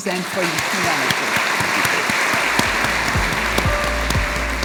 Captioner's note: audience applauding; bright music